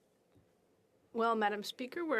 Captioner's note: speaking French